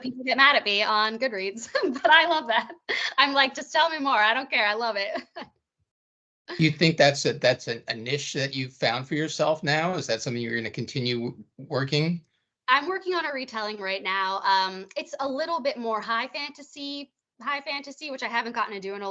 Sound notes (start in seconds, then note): 5.0 laughing